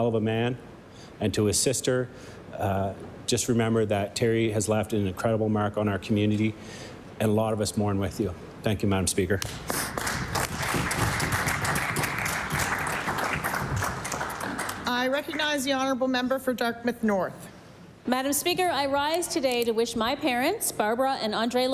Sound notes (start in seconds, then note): 15.6 applause